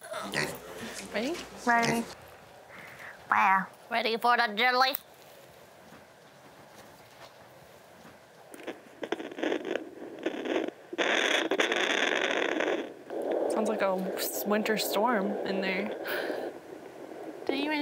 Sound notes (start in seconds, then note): 0.0 groaning; 9.3 machine buzzing